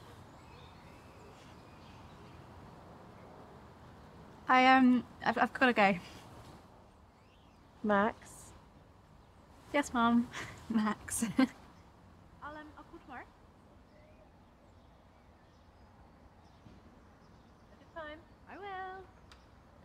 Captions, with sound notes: I eh... gotta go. Max? Yes Mum, Max (sniggers) (distant chattering) - Have fun. - I will.